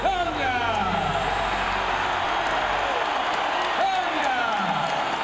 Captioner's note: crowd cheering